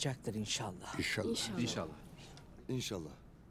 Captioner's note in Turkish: Hep bir ağızdan